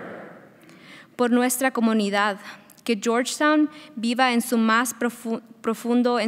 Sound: speaking in foreign language

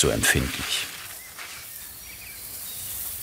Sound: birds chirping

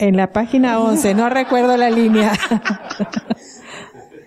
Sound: laughter

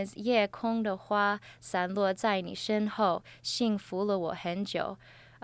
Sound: speaks in Chinese with pinyin

